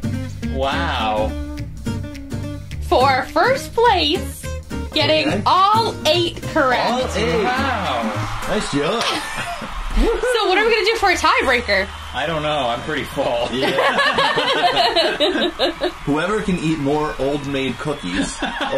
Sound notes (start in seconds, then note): 6.6 cheering Crowd; 13.5 laughing